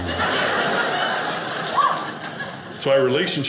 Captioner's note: audience laughing